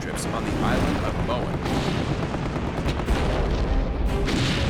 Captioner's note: explosions